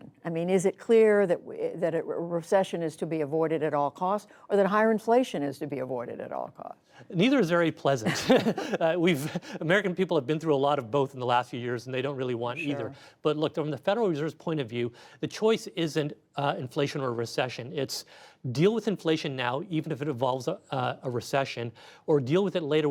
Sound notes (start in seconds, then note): 8.0 laughter